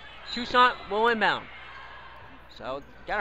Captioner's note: whistle blows